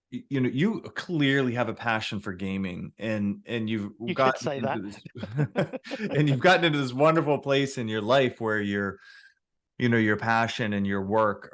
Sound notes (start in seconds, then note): 3.9 laughing